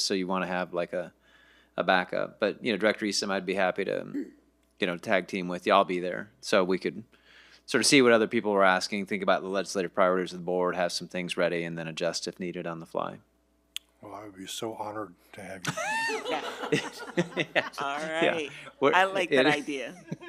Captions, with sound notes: So you wanna have like a backup. But Director Eason, I'd be happy to tag team with you. I'll be there. So we could sort of see what other people are asking, think about the legislative priorities of the board, have some things ready, and then adjust if needed on the fly. - Well, I would be so honored to have you. (all laughing) - All right, I like that idea.